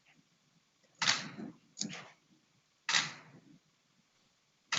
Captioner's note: camera shutter